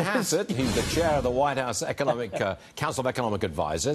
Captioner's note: laughter